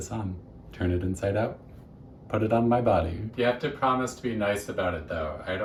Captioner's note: shouting